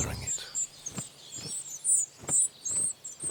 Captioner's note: bird chirping